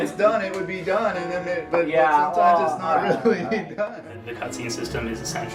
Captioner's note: laughs